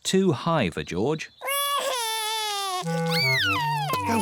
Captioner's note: crying